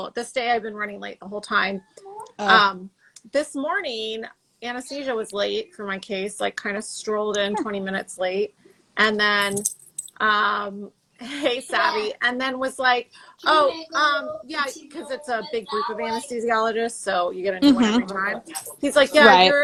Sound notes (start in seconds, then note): 9.4 jingling; 11.6 child chattering